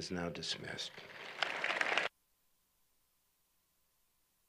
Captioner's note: applause